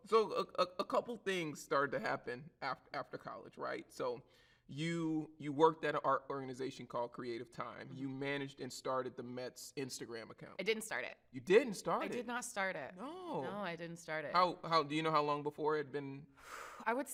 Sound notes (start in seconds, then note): none